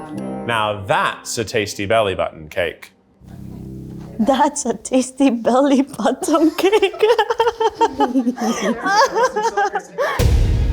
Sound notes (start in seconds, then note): 5.8 laughs; 9.9 air whooshing; 10.1 epic music